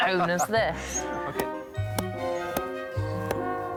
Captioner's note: tapping